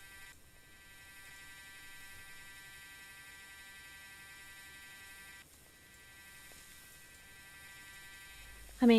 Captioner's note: mechanical drilling/vibrating sound